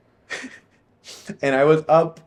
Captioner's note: laughing